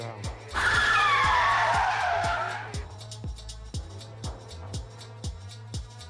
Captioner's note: vehicle engine whirring